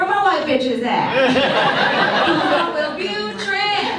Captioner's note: audience laughs